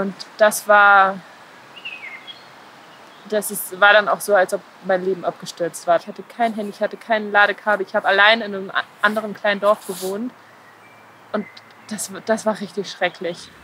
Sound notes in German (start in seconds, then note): 1.6 Vogelzwitschern